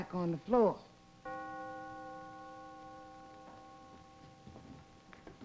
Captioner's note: bell ringing